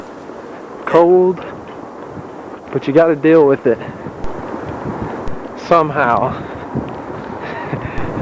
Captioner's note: laughing